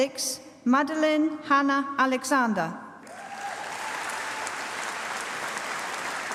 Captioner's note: applause